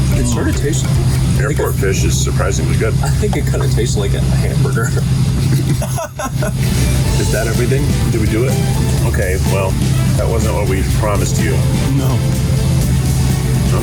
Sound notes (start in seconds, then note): 5.4 laughs